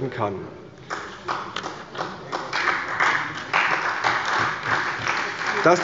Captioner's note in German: Beifall bei der CDU